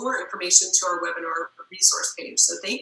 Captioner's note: murmur